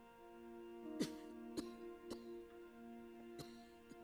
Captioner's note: coughing